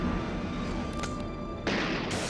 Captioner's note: gun cocking